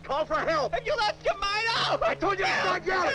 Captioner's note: yells